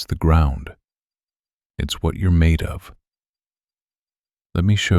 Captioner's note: short pause